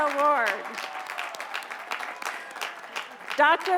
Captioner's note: applause